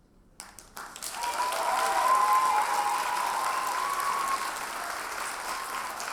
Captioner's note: audience cheers and applauds